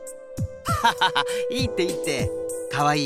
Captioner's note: laugh